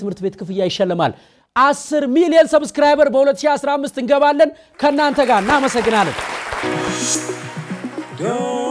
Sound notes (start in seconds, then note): 4.7 applause